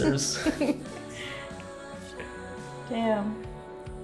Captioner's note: both laughing